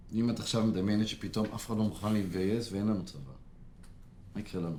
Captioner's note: speaking foreign language